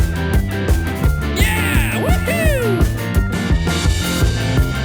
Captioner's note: is dying from laughter!